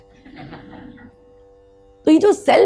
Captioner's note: audience laughs